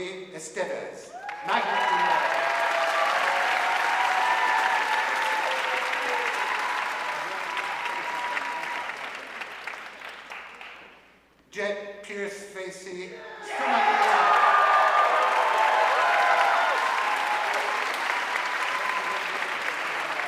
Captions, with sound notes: Kaila Marie Esteves, magna cum laude. (audience cheering and applauding) Jett Pierce Facey, summa cum laude. (audience cheering and applauding)